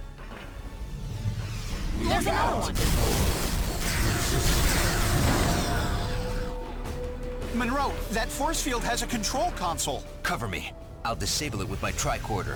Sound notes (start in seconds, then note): 0.0 tense music; 4.7 explosion